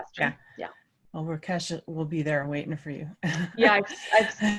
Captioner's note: laugh